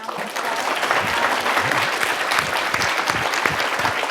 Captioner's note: audience clapping